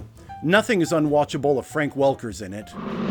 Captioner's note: ”short roll and konk” sound